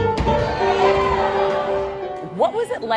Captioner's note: piano plays; crowd cheers